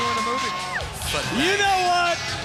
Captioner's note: crowd cheering